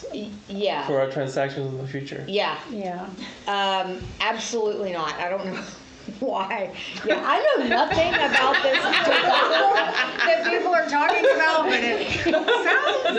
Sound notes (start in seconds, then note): 5.9 laughs